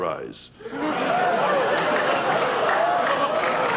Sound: audience laughing

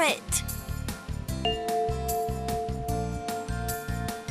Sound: bell chimes

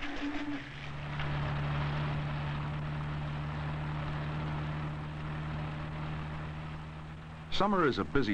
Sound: car noises

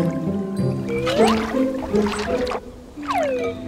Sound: splash

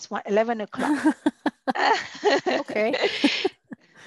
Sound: laughter

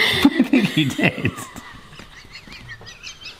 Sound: both laugh

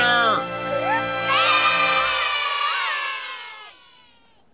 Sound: cheering

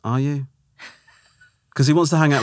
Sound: laughing

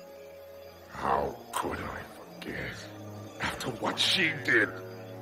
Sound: snarling

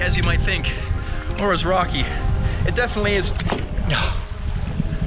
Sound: sigh

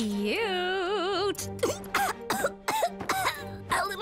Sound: coughing

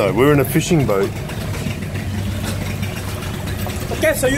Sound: boat engine roars

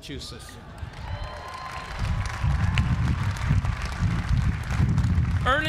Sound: applause

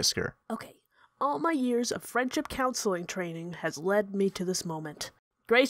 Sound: quietly

